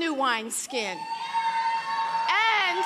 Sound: audience cheering

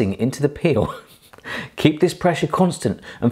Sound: chuckling

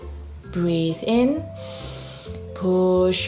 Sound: breathes in deeply

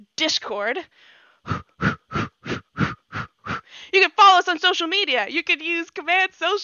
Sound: heavy breathing

